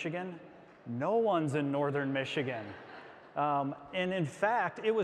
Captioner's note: audience laughs